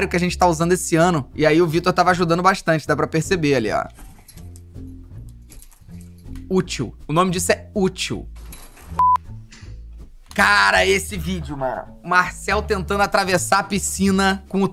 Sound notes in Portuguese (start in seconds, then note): 9.0 som de bipe